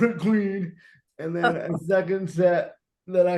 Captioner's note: laughing